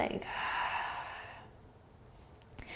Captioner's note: exhaling